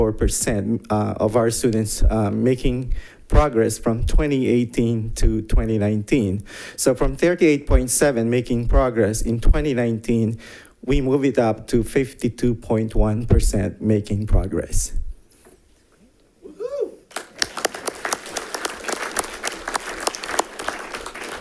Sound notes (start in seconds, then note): 17.0 audience clapping